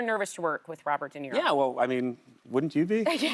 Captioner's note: laughter